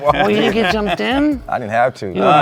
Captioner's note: laughing